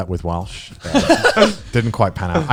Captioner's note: guys laughing